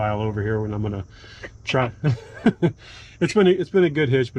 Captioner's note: both laughing